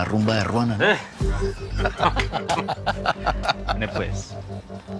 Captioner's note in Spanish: Risas